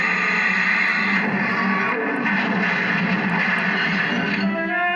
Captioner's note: thud Thud Thud